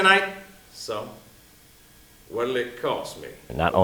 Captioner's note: lower voice